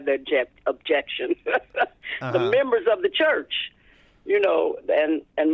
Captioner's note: laughter